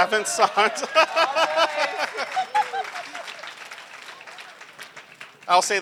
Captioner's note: laughter, applause